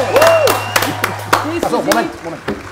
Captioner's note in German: Jubel, Applaus